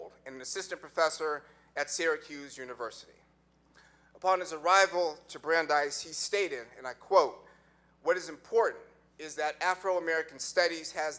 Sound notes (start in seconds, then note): none